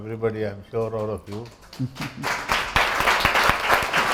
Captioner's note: applause!